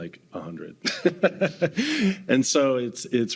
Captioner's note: laughing